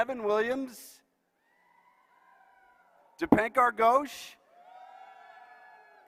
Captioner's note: applause